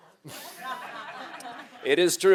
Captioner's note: laughter